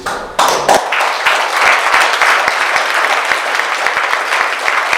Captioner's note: audience clapping